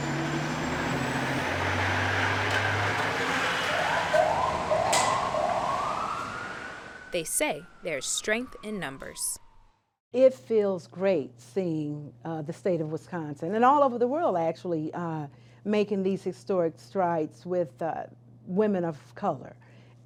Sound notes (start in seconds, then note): 5.7 engine revving; 5.7 siren wailing